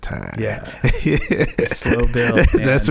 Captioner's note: laughing